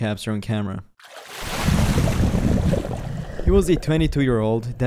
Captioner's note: water splashing